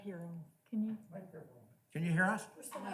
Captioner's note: male Voice